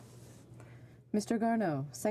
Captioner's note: speaking French